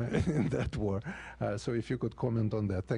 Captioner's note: laughter